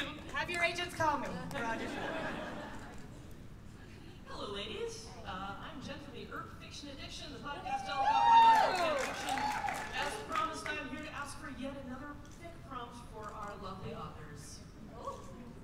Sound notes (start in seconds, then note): 1.6 laughter; 7.6 cheers and applause